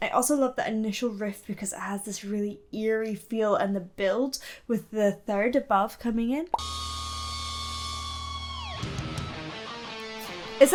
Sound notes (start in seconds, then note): 6.5 air pops; 6.6 ominous guitar music; 9.0 grungy rock music